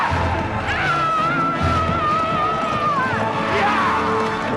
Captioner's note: villager wails